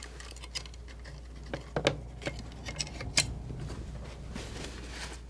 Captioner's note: scratching